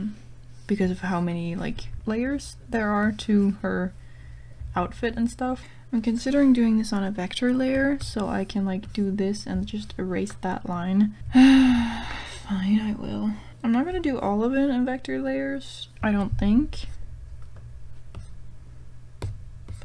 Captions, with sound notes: because of how many like layers there are to her outfit and stuff I'm considering doing this on a vector layer so I can like do this and just erase that line *sigh* fine i will i'm not going to do all of it in vector layers I don't think